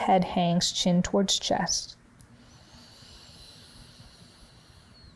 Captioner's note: breathing deeply